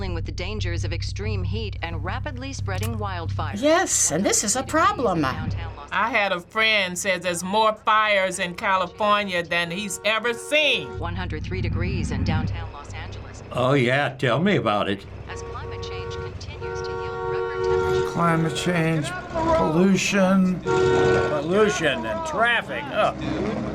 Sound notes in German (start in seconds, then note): 17.7 Auto hupen